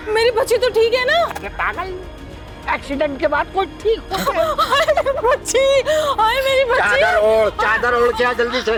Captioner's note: laugh